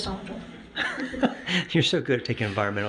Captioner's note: laughs